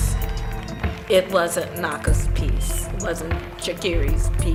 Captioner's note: applause